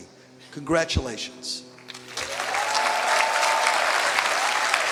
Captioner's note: applause